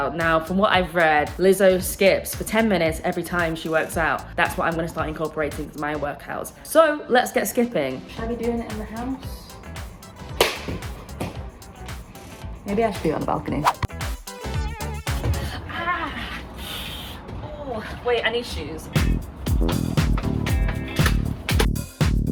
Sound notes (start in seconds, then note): 10.4 rope hits object; 13.9 bright upbeat music; 19.0 bright upbeat music